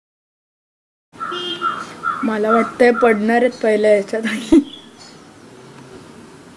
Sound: giggles

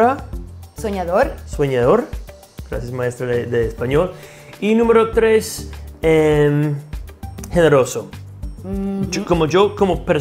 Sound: kiss

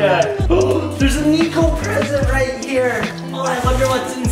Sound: laughing; gasps

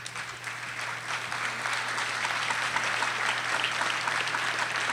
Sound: audience applauding

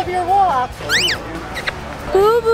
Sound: bird squeaking

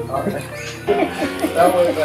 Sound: laughing

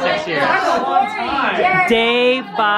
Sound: group clamors

